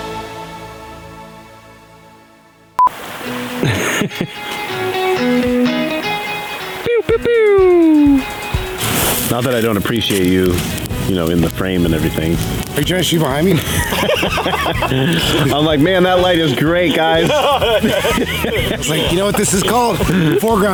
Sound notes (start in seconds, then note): 3.5 laughing; 14.4 laughing; 17.7 laughing